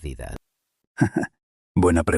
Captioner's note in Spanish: ríe